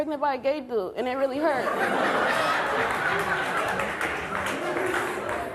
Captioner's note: audience laughing